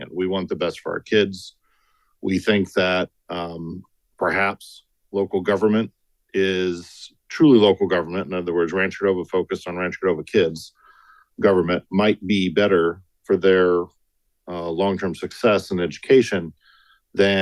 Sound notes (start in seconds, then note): none